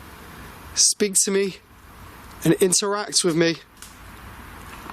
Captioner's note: none